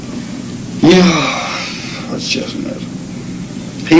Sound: sighs

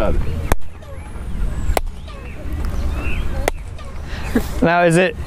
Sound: clapping and bird-like echo

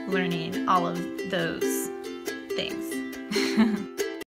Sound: chuckles

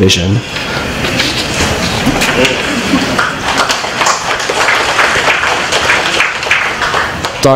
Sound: applause

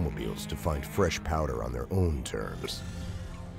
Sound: voiceover

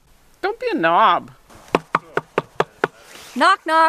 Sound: knock on door

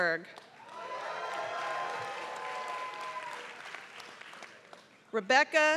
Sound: applause

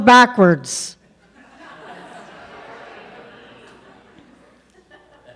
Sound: audience laughs

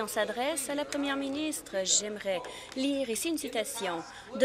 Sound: applause

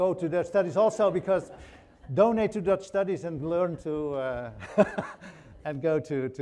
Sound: laughs

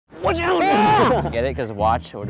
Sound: screaming

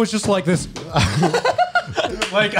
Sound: laughs

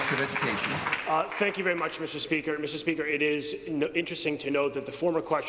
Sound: applause

